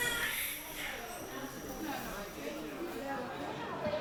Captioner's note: baby crying